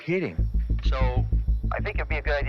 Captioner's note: radio